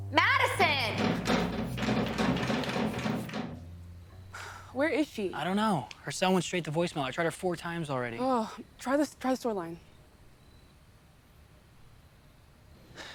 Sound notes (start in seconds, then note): 0.6 door thudding; 3.4 insects chirping; 4.3 sighs